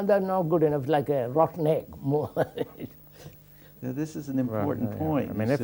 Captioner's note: laughs